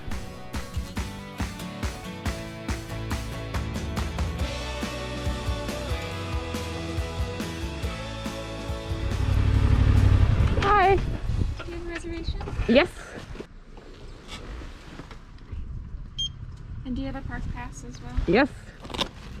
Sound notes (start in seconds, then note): 0.2 upbeat music; 9.0 scooter engine growling